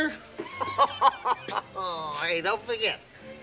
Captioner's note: laughs